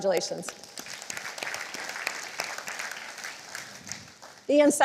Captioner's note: applause